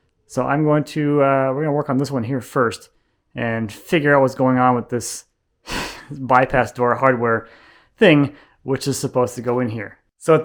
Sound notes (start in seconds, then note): none